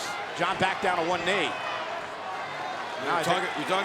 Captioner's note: crowd cheering